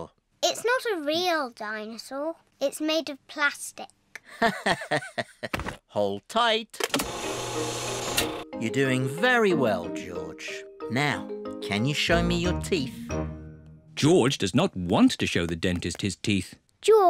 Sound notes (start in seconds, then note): 4.3 laughs